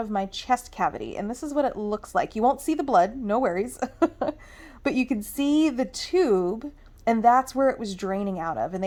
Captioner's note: laughs